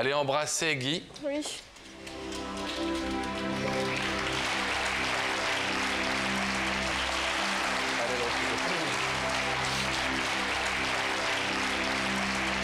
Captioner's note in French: applaudissements